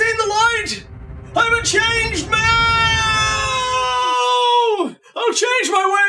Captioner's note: wailing